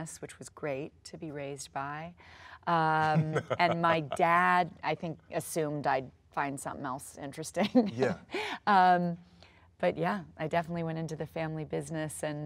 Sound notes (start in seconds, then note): 3.0 Sterling laughs